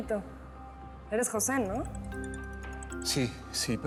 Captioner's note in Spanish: suena un celular